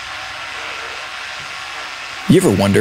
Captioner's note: toothbrush buzzing